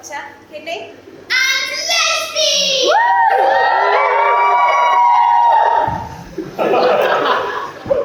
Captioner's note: audience cheer